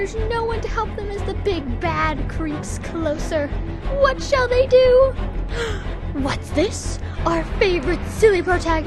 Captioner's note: gasp